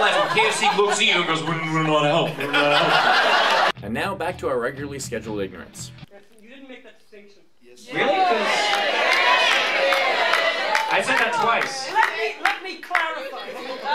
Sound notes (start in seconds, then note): 2.2 laughter